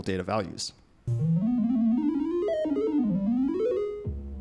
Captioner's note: digital tones